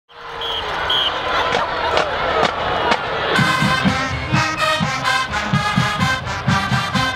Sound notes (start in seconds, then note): 0.4 whistle blowing